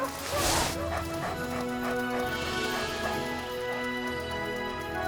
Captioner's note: Buck panting